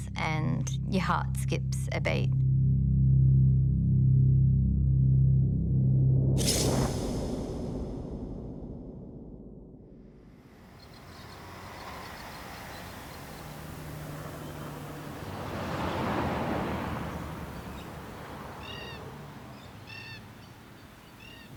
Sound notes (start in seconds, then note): 2.4 dramatic music; 10.9 birds chirping; 15.5 truck engine revving; 18.7 birds chirping